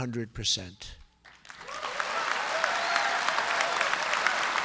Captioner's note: applause